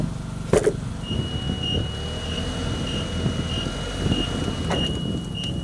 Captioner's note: fork truck beeping